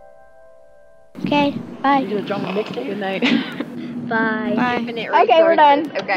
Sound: various voices

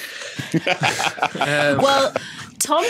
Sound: laughs

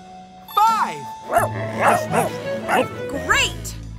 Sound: barking

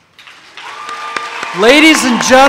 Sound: audience cheers

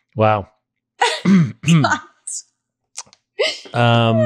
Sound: laughs

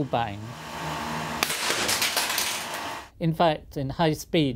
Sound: glass tube bursts

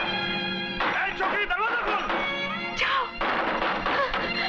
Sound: door knocks; door knocks

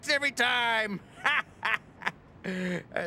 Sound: laughs

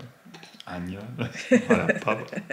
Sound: laughs

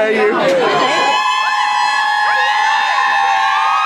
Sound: cheering

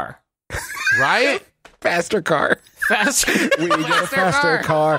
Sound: laughter

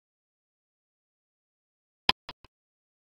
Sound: click sound

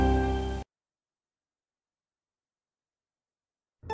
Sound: silence

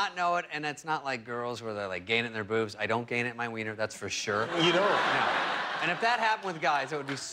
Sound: laughter

